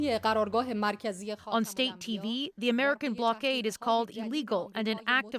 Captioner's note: speaking alternate language